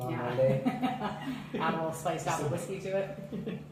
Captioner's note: laughter